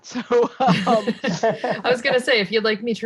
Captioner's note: laughs